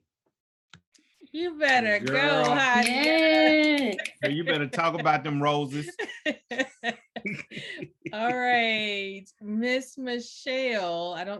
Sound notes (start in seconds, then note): 1.8 applause; 6.2 laughter